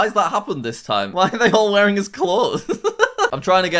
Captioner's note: laughs